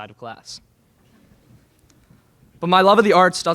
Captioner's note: laughter in crowd